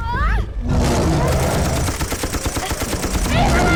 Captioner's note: gunfire